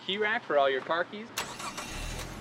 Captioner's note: car engine